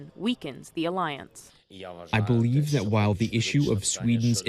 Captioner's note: through translator